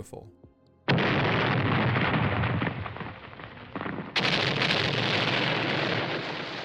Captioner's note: explosions